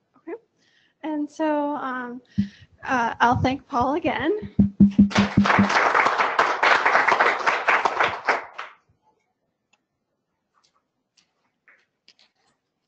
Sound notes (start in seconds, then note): 4.9 applause